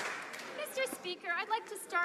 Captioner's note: some Applause